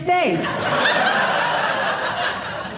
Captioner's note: audience laughing